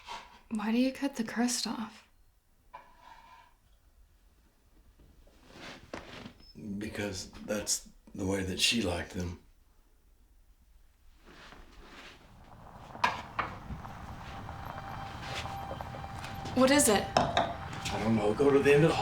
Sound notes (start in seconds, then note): 12.4 suspenseful music; 13.7 engine rumbles